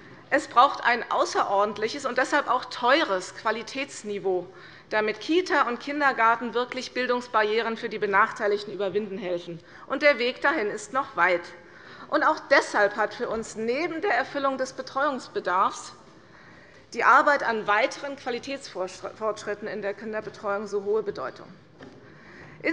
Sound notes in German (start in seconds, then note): none